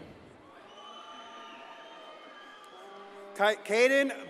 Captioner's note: audience cheers and applauds